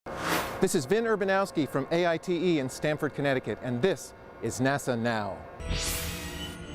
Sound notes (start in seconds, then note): 0.1 sound Effects; 5.6 sound Effects